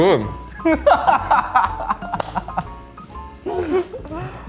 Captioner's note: laughing